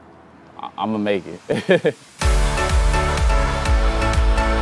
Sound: laughing; energetic piano with percussion

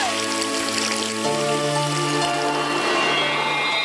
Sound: pan clatters; girls shout; water splashing; mystical music

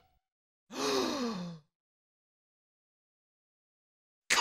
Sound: Gerald gasps

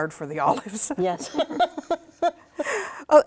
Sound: laughter

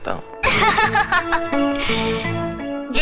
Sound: laughs

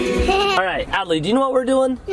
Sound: laughs

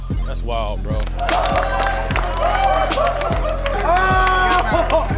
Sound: crowd cheering

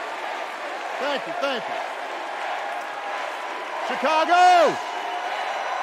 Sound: cheers and applause

